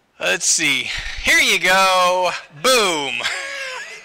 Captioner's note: laughter